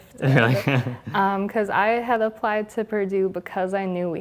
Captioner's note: laugh